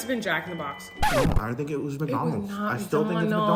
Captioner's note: sound of record scratching